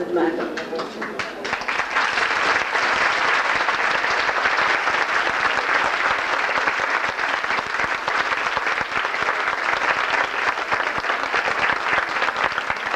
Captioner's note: applause